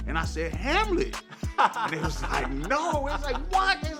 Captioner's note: laughter